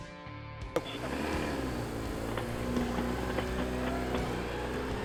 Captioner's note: bike engine revving